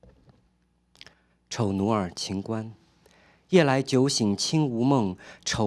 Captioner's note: speaking chinese